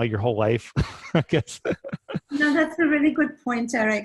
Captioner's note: laughing